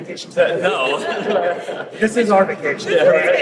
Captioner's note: laughing